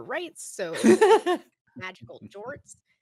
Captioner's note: Cornette laughs